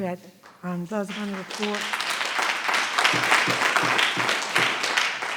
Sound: audience applauding

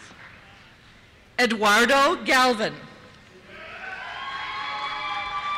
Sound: cheers

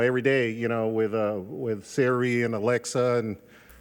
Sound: none

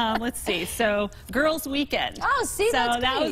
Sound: laughter

